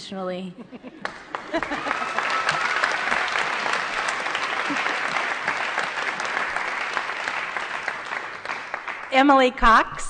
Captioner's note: applause